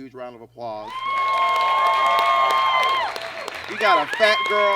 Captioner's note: audience cheers and claps